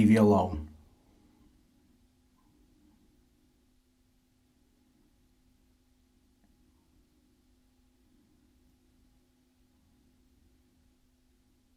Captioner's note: silence